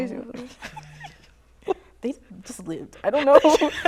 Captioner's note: laughs